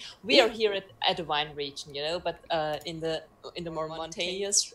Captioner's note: none